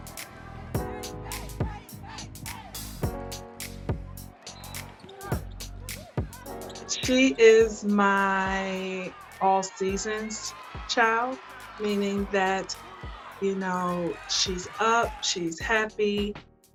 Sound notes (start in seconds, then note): 0.0 upbeat music; 0.2 team cheering; 4.5 whistle blowing